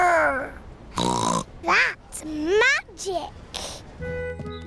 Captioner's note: snorts